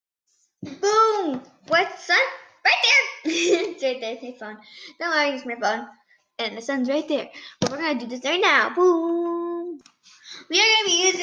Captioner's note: giggling